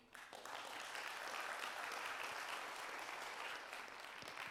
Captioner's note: applause